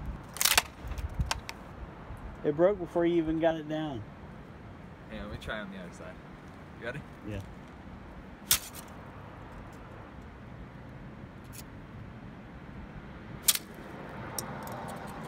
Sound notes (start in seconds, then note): 0.3 stick hitting ground; 8.4 stick hitting ground; 13.4 stick hitting ground